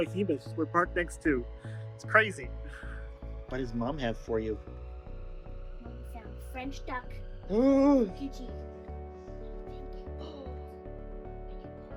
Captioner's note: gasps